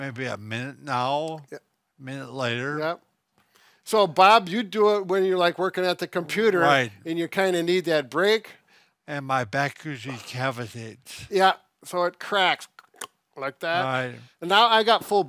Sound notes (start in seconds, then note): 12.7 clicks tongue